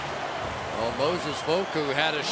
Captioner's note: cheering